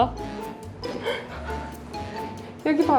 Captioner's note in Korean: 웃음